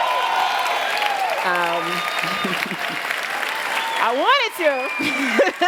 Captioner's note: loud Cheering